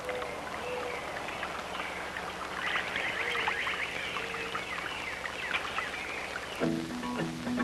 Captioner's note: bird songs in background